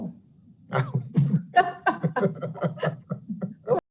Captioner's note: all laughing